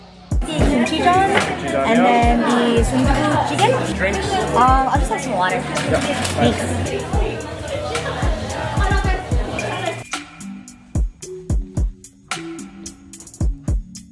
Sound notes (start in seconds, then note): 0.3 speaks in foreign language; 7.5 group chattering; 10.4 soft bouncy music